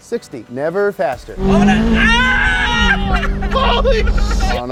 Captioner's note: screaming and laughing in unison